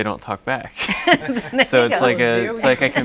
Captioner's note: laughs